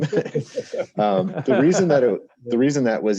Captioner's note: all laughs